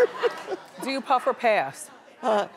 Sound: laughing

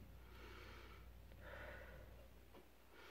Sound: inhales then exhales

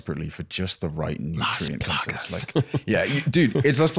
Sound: whispering

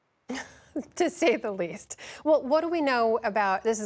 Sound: laughter

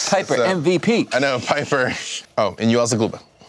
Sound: none

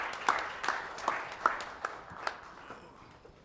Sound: applause

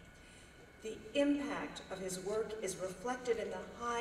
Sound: none

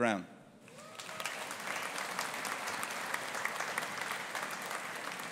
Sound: audience applauding

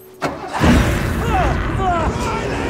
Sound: engine turning over; Riley yelling

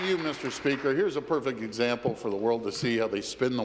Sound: applause

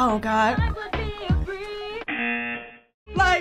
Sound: buzzer; singing along

